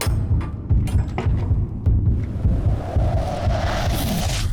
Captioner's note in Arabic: عواء الرياح